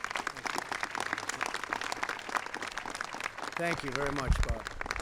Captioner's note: applause